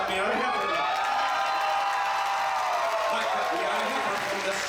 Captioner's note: audience cheers